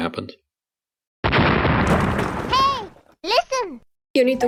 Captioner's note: boom!